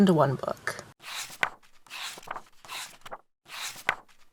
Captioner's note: pages turning